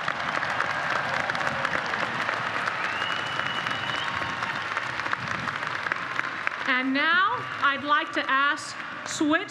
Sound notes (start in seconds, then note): 2.2 applause